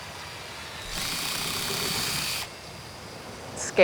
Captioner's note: drill whirring